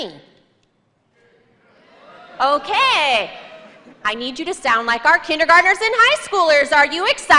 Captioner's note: cheers and applause